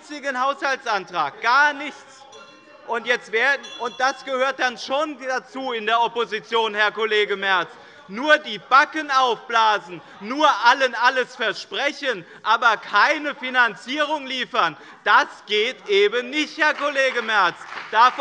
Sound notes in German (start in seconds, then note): 3.0 Anhaltende Unruhe - Glockenzeichen des Präsidenten